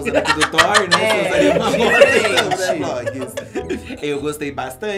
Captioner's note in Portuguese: risos